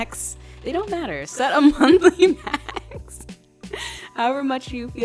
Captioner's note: laughs